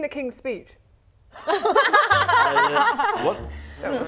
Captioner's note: laughing